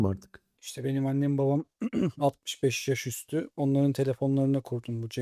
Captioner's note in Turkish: boğazını temizler